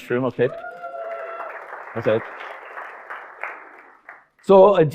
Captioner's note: audience applauding